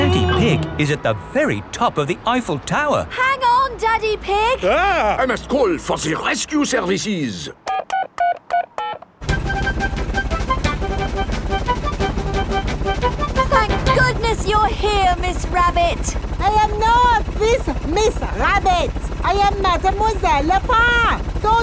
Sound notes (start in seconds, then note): 8.0 dialing